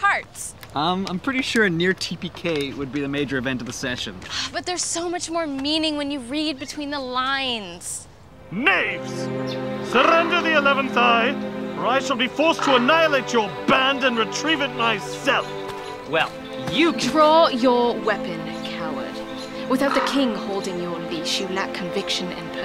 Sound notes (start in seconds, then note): 4.5 sighs